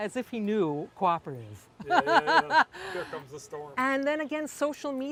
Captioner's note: laugh